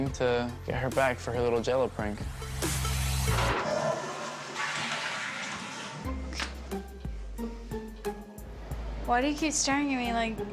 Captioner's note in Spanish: toilet flushes